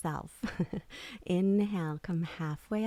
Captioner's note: chuckles